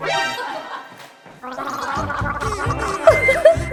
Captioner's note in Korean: 가글 가글